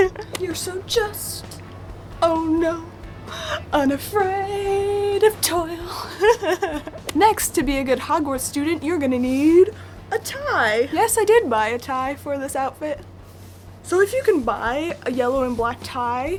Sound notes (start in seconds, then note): 0.1 sings; 5.6 laughs